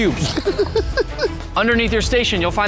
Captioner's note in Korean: 웃음